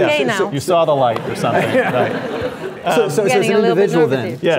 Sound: laughing

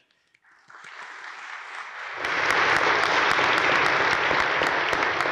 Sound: audience applauding

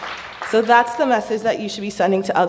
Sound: applause

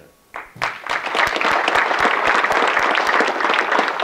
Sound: audience clapping

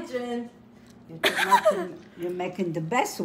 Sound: laughs

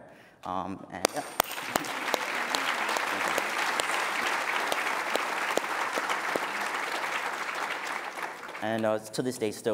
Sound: applause

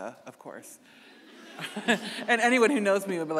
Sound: audience laughing

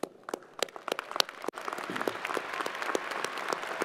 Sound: crowd applauding

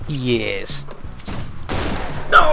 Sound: failed gunshot

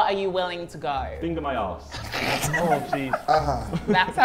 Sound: Sidemen laugh

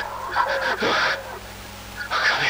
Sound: afraid human noises

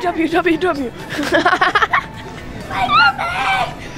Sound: laughing

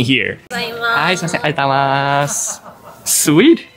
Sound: staff & speak in japanese

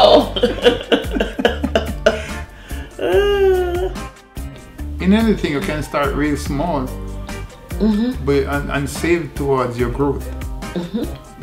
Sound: laughter

